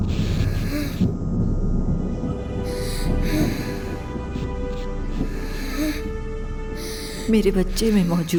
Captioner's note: breathes heavily